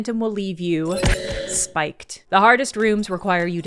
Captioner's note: bright tinkling death sound